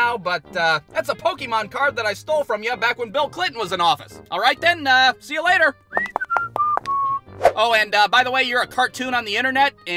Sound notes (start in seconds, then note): 5.9 whistling